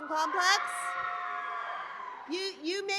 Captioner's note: applause